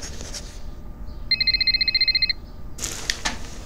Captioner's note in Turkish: Telefon çalıyor